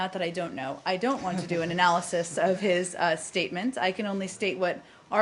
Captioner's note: laughter